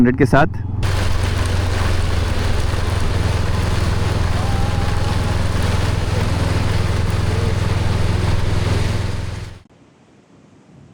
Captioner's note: rain